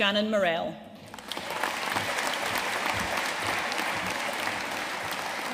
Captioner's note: audience applauding